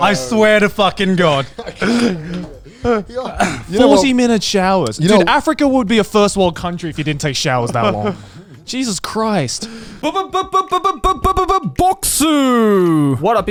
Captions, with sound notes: I swear to fucking God. - 40 minute showers. Dude, Africa would be a first world country if you didn't take showers that long. Jesus Christ. - (beatboxing) Bokksu!